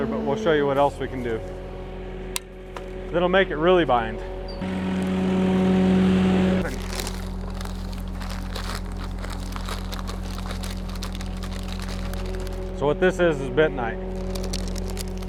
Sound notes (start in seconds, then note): 4.8 machine whirring; 6.6 bag crinkling